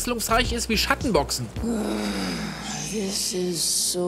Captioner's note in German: Stöhnen